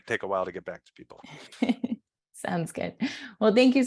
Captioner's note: laughs